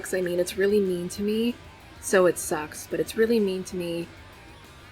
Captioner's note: none